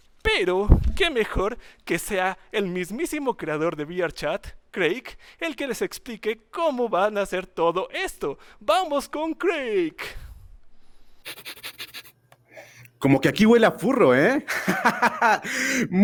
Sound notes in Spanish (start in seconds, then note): 11.2 olfateo; 14.4 risas